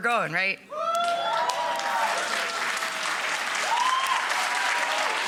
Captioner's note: audience cheering